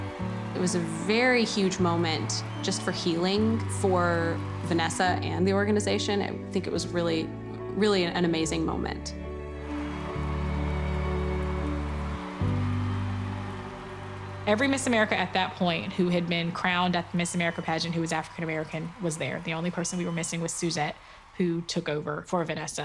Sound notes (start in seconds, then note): 9.6 crowd cheering; 9.6 mellow music